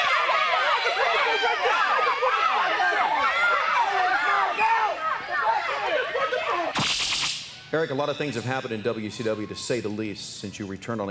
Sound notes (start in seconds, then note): 2.4 crowd chatter